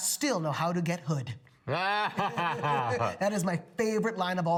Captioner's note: laugh